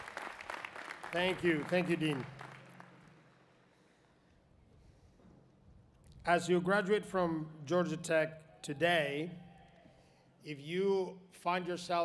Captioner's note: applause